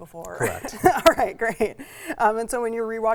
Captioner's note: laughs